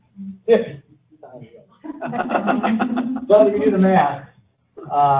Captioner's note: audience Giggling